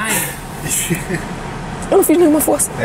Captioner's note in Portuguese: risadas